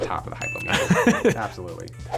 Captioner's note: laughs; meter dings